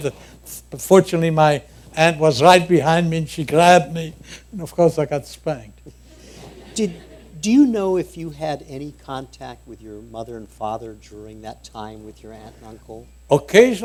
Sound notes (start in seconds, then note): 5.9 laughter